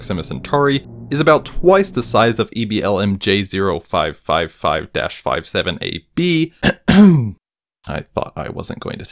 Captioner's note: aggressively clears throat